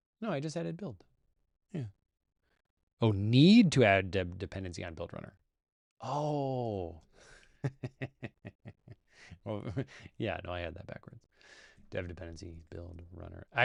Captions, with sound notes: No, I just added build. Yeah. Oh, need to add dev_dependency on build_runner. Oh. [LAUGHS] Yeah. No, I had that backwards. dev_dependency build_runner.